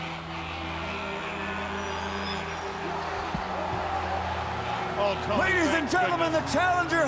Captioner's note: crowd chatter